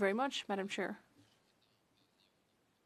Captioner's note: speaking French